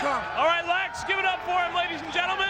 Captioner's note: audience cheers